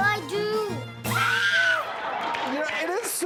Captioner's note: screams